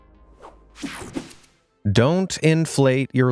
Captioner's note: air whooshing